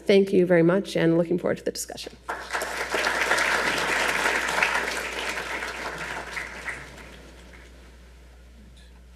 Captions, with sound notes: Thank you very much and looking forward to the discussion. [audience applauding]